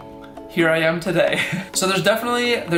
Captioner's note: laughs